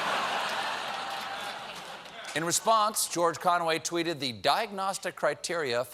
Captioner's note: laughter